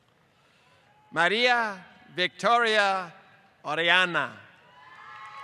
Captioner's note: applause